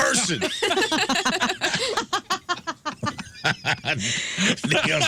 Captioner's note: laughing